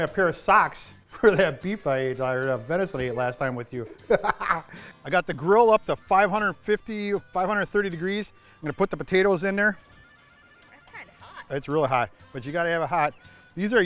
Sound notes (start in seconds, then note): 3.8 laughter; 10.7 voiceover